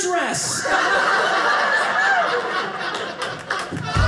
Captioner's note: audience laughing